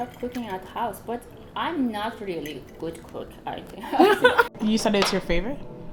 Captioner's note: chuckles